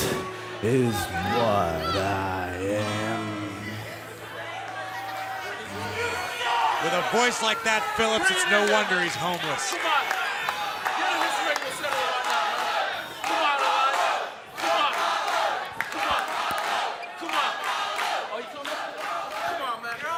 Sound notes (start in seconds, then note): 16.4 fans chanting